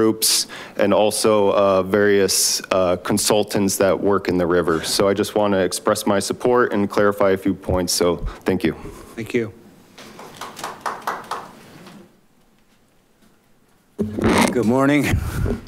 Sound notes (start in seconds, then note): 10.1 applause